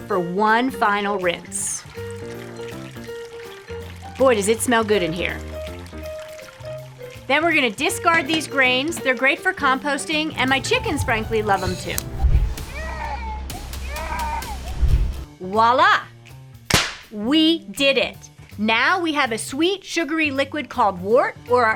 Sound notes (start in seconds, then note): 12.6 child crying; 16.7 claps